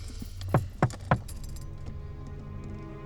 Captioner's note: window knocks; suspenseful music